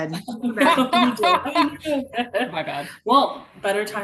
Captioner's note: all laugh